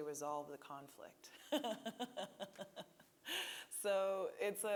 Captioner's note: laughing